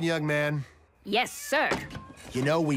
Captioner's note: cats meowing